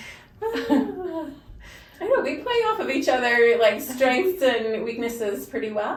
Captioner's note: both laugh